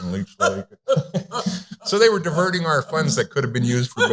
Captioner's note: laughter